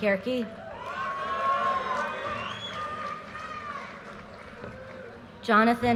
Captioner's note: audience cheers and applause